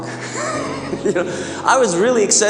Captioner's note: laughing